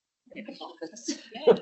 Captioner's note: audio distorts 06.21